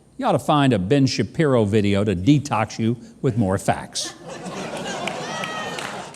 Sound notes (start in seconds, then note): 4.1 audience laughs